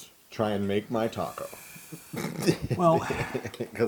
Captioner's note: laugh